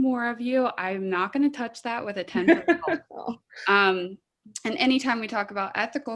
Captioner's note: laughing